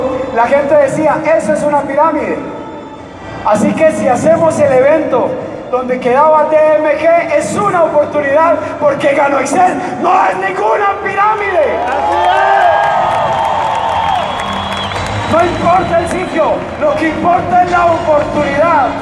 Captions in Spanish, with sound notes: La gente decia, eso es una piramide. Así que si hacemos el evento donde quedaba DMG es una oportunidad, porque Gano Excel NO ES NINGUNA PIRAMIDE. (aplausos) No importa el sitio, lo que importa es la oportunidad.